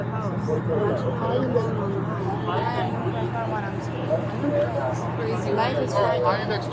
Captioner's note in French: conversation indistincte continue